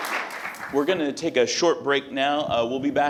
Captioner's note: applause